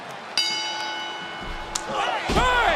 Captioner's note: bell ringing